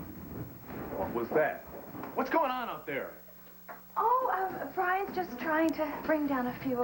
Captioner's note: noise in hall